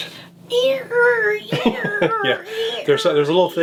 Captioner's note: squeaking; laughing